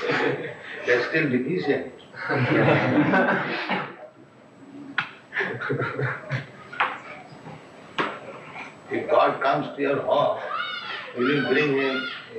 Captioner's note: laughter